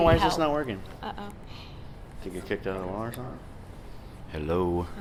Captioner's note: voiceover